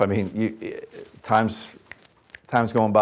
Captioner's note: snapping